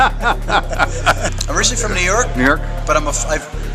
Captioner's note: laughter